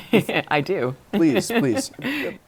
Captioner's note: laughter